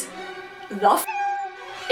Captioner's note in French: Miaou